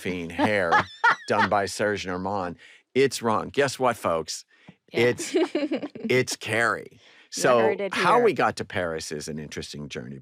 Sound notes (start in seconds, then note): 0.2 laughs; 5.0 laughter